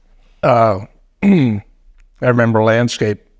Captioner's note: coughing